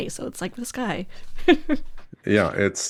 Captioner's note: laughs